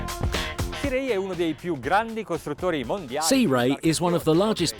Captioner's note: speaking foreign language